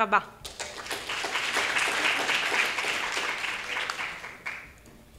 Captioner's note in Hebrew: מחיאות כפיים